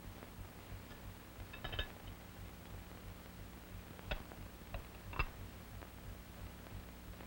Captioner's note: instrument clanking